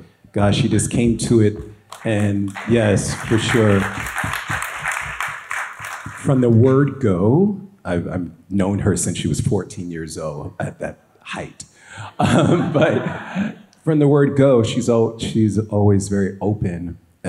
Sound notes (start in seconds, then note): 1.9 audience applauds